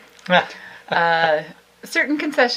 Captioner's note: laughs